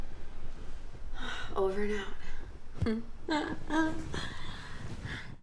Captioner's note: chuckles